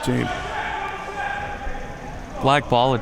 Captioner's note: audience chattering and yelling